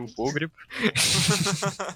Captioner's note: laugh